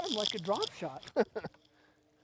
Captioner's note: laughter